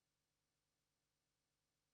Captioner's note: speaking in indigenous language